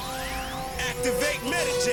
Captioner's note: power whirs